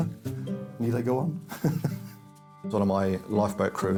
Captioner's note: laughs